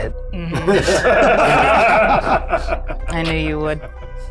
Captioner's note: everyone laughs